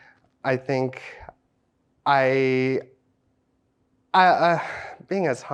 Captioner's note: sighs